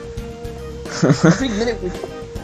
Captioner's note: nervous laughter